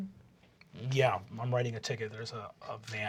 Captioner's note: deep voice